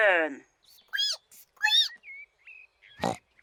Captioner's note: squeaks; snorts